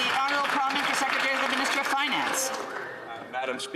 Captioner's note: some Applause